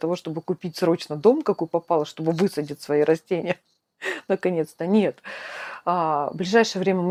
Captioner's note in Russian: тяжело вздыхает